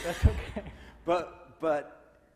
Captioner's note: laughs